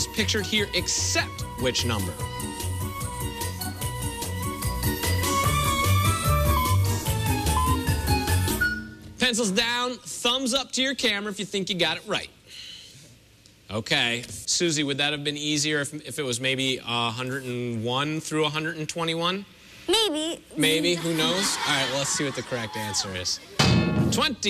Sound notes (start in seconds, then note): 6.3 electronic beeping